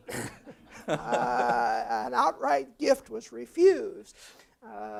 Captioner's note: laugh